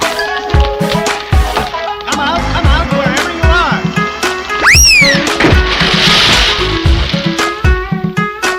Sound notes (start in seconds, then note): 4.5 tower starts to crash down; 4.5 crash!